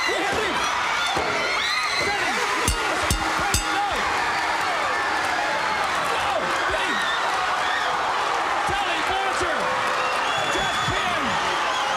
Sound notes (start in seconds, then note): 2.6 crowd cheering; 4.3 bell ringing; 8.2 crowd cheering; 11.7 crowd cheering